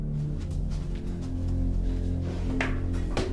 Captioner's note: footsteps